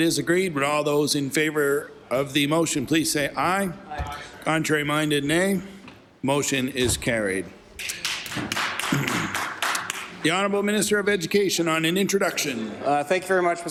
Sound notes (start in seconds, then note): 10.7 applause